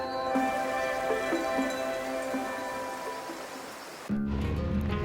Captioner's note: water flowing; slow music ends; country music